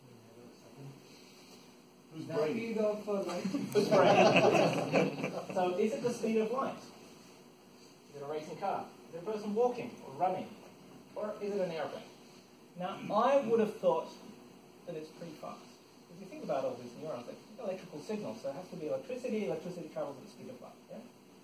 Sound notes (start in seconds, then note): 3.3 laughter